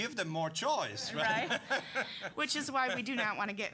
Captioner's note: audience laughing